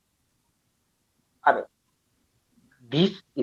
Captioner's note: stutters